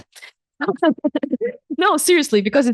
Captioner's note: chuckles